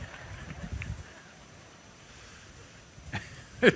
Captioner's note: laughter; laughs